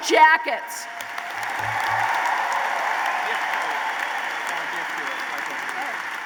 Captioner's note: applause